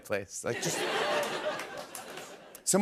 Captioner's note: laughter